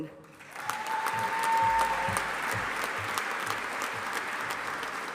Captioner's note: audience applauding